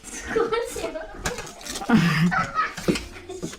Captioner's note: laughs